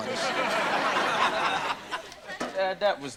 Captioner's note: audience laughter